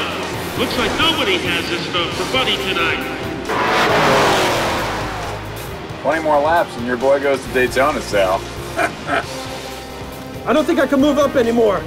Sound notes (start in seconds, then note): 8.7 chuckles